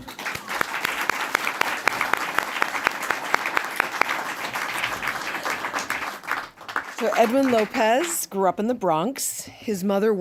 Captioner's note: applause